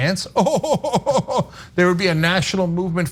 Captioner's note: laugh